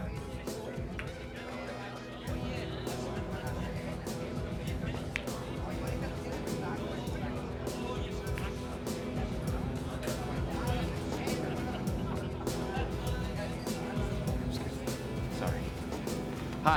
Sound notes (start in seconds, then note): 0.0 patrons chattering indistinctly; 0.2 suspenseful rock music; 4.8 patrons continue chattering indistinctly